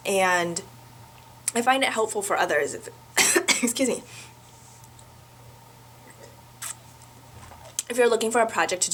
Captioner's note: cough